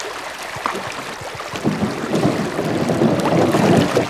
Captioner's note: water flowing